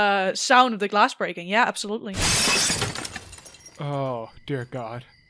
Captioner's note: sounds of a glass window breaking; sound of crickets chirping begin in the background